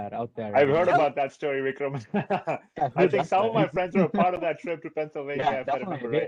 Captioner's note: laughs